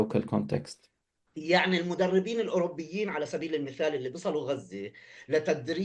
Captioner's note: speaking arabic